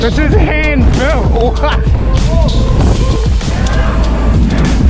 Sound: laughs

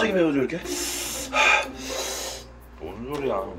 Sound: deep breath

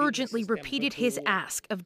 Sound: speaking alternate language

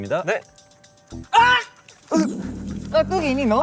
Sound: shout

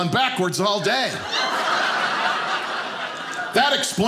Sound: audience laughing

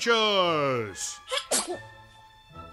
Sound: comical sneeze

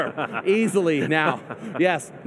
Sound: laughs

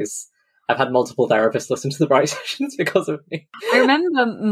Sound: laughs

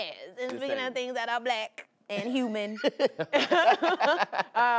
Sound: laughter

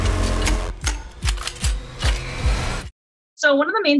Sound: gun cocking

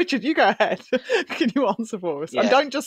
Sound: laughs

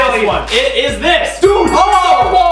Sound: bell ring

